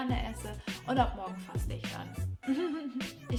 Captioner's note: laughs